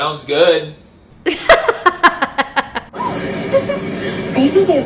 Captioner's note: laughs